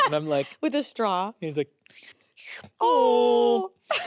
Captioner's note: slurping